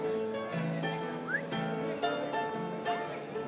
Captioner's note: whistles